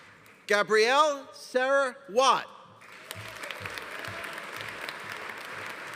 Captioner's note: audience applauding